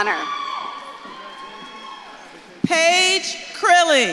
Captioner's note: audience claps and cheers